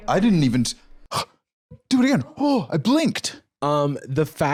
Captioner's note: gasps